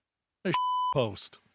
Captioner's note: beep